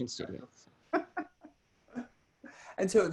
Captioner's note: laughs